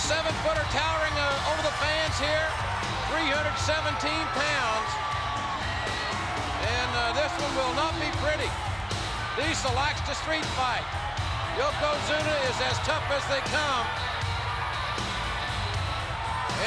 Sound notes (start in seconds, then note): 4.4 spectators cheering; 14.3 upbeat music